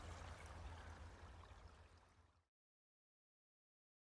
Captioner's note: water and crows fade